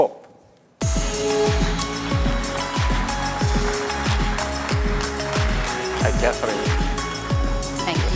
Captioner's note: applause